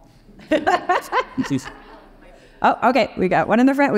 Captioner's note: laughing